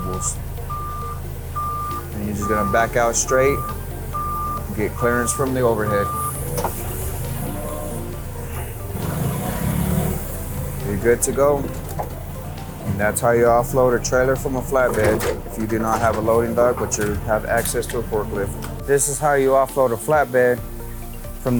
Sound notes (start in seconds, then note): 1.5 lift alarm beeps; 6.4 lift engine roars